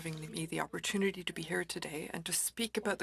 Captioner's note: speaking french